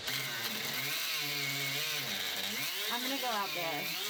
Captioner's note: dremel whirs